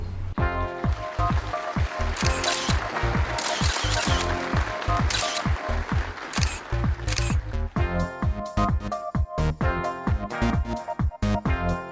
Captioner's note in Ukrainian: оплески